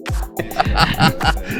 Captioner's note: laughs